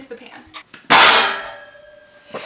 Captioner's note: crash